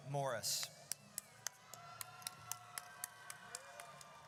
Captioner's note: audience cheers